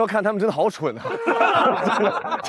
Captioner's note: hahaha